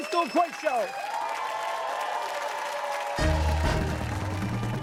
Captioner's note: cheers and applause